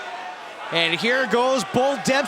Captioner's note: crowd cheering